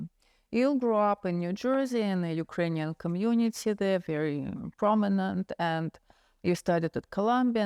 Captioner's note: none